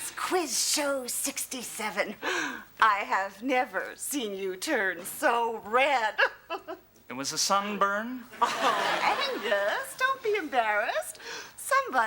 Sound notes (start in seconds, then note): 6.3 laughs; 8.4 audience laughs